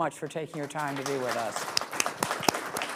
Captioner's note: applause